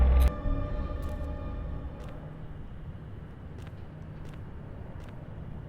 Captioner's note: distant city ambiance